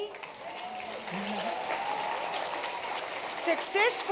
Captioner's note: cheering, applause